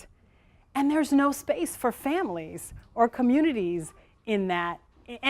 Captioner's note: none